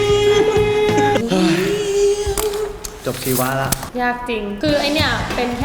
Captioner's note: sigh